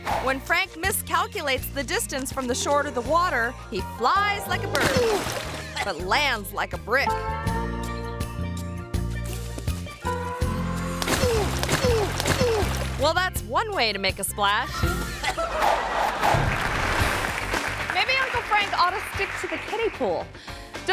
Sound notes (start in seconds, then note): 11.0 water splashing; 16.2 audience applause